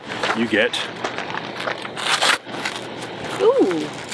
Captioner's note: velcro sound